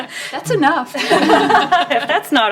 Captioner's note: laughter